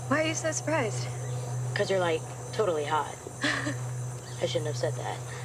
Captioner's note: chuckles